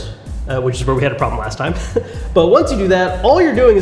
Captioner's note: laughs